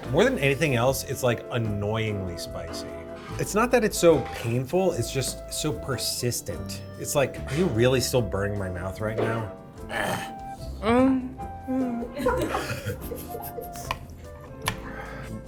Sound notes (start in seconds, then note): 10.8 whimpers; 12.5 crew laughs